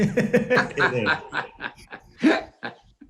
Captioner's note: both laugh